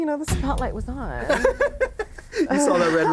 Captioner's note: laughs